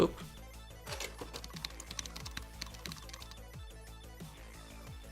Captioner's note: keyboard clicks